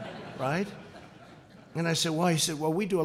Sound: laughter

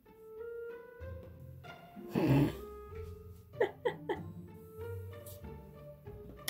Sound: snicker over weird bunny-ears-hair

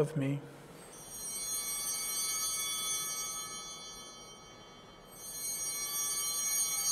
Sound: chimes ringing

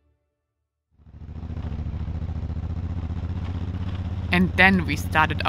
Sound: bike roaring

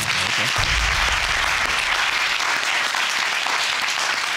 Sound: audience applauding

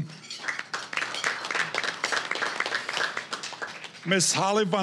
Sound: applause

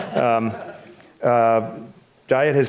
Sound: audience laughs

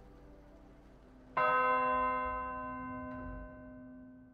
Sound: church Bells

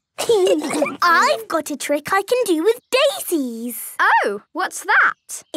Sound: laughter

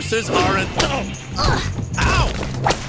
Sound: grunt

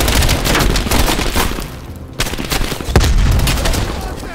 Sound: gunshots

